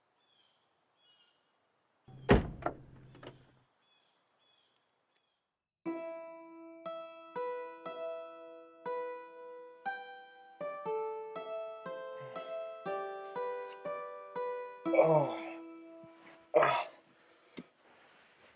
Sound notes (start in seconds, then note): 10.5 soft music; 12.6 yelling; 18.0 soft music